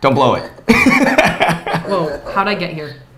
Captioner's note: laughs